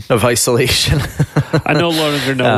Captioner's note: laughing